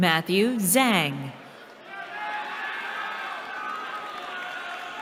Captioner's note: cheering